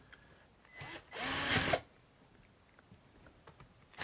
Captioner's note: drill whirring